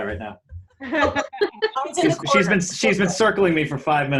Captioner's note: group laughing